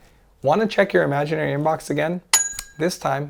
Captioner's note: bell chimes